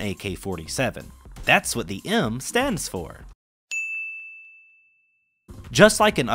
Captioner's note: ding